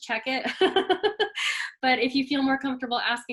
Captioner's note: laughs